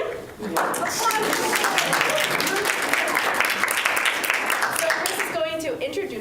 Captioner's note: applause